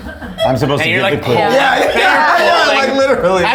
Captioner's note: all laughing